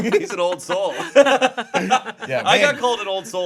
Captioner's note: group laughing